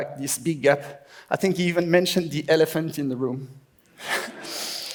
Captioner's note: laughs